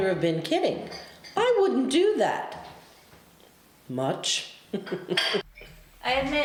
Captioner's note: laughs